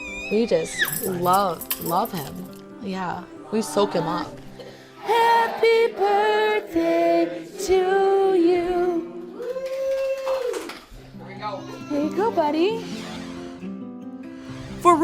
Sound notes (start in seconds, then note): 9.4 cheering